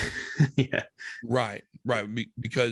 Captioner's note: laughs